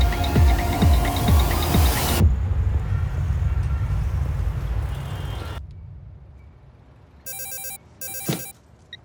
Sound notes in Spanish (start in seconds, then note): 1.2 Suena el celular